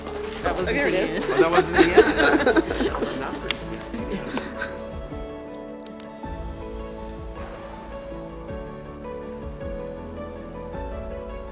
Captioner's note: applause